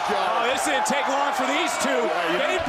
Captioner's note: crowd cheers